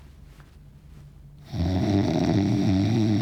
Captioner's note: snoring loudly